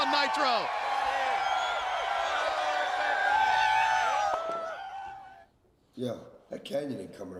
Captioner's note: crowd cheering